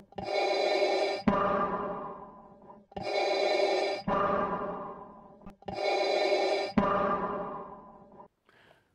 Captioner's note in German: Darth Vader Atemgeräusche